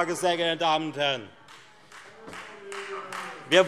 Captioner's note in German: Beifall Freie Demokraten - Zurufe CDU und BÜNDNIS 90/DIE GRÜNEN: Nein!